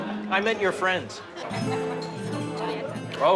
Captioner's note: laughs